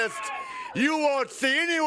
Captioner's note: crowd cheering